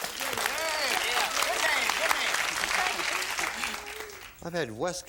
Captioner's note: applause